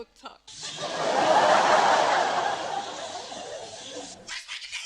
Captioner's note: laughter